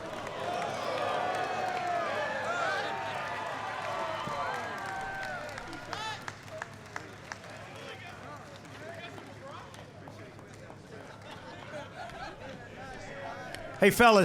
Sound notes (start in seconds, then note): 2.5 applause